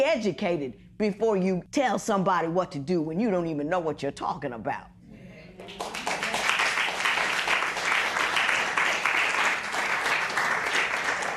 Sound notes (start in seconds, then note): 5.6 applause